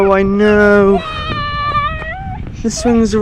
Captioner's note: crying